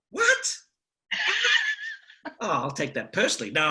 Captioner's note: laughs